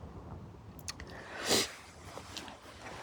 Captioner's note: sniff